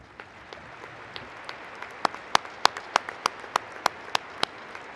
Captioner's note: applause